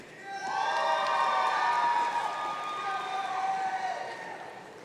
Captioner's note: audience cheering